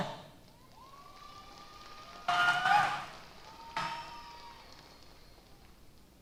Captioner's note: applause & Cheers